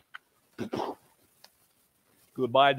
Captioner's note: mimics shotgun cocking and firing